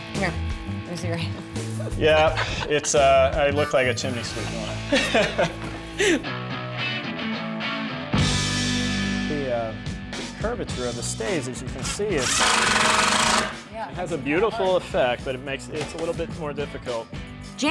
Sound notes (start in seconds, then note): 4.4 laughter; 11.8 drilling